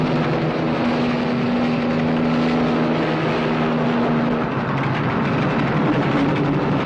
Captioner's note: helicopter roaring; truck engine whirring